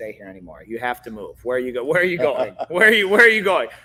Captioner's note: laughing